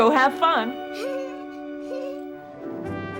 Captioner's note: molly giggles